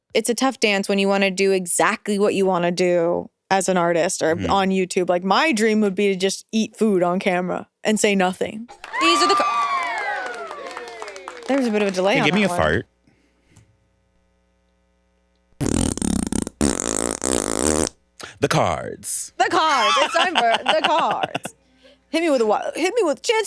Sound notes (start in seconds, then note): 8.7 audience applauds; 15.6 fart explodes